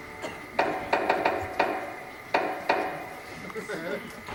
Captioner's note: knocking